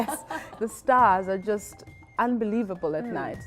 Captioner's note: laughter